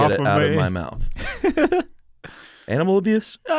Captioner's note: laughs